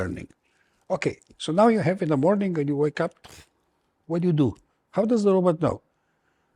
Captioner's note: pfft